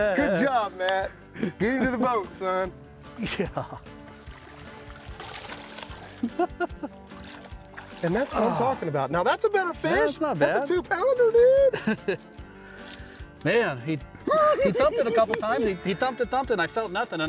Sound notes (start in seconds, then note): 15.2 cackling